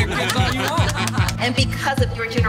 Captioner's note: all laughing